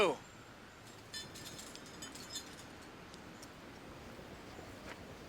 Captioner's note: metal clanking softly